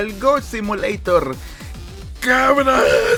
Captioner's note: inhales